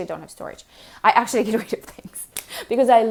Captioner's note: chuckles